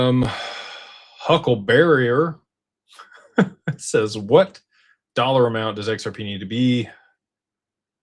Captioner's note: sighs; laughter